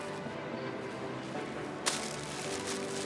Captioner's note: none